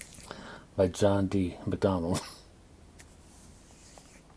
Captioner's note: coughs